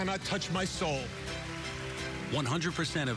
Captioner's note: applauds